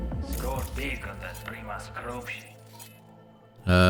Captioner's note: speaking in foreign language